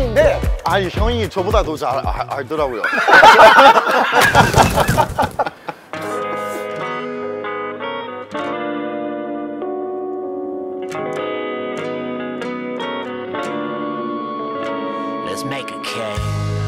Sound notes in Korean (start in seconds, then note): 2.8 웃음